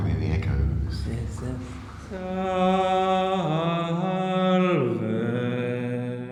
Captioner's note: chants in German